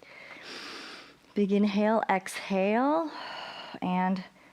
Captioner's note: inhales